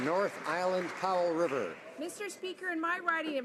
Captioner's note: some Applause